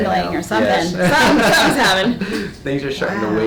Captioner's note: laughs